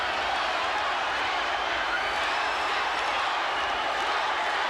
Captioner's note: crowd cheering